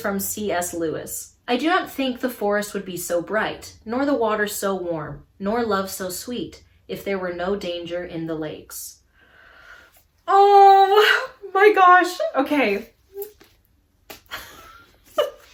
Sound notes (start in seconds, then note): 9.1 sharp inhale; 13.2 laughs